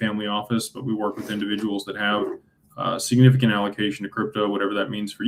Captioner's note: clears throat